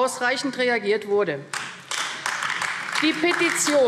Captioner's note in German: Beifall AfD